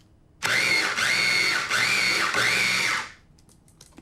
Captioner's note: grinding